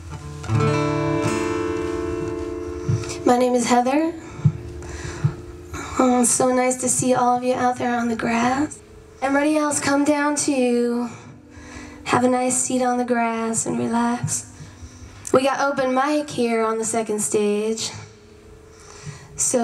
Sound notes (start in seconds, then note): none